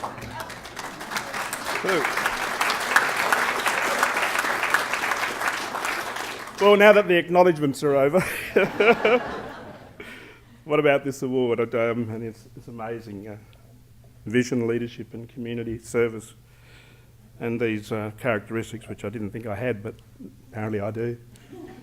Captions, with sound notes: [ Applause ] Now that the acknowledgments are over. [ Laughter ] What about this award. It's amazing. Vision, leadership, and community service, and these characteristics which I didn't think I had. But, apparently, I do.